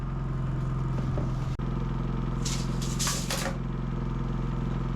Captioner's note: motor whirring